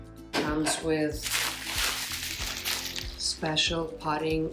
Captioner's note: bag rustling